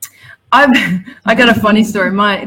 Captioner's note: laughs